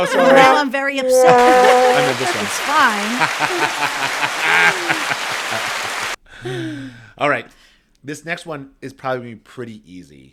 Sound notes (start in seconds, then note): 1.1 round of Applause plays